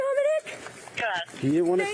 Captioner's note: radio chatter